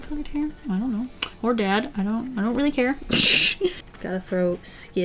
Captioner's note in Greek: Γέλια